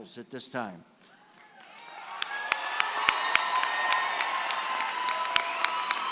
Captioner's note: cheering and applause